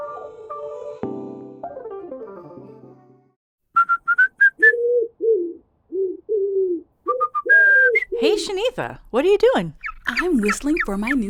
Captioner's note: whistling sounds, accompanied by a bird cooing